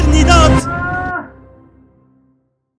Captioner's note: scream